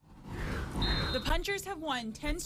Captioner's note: air whooshes; whistle blows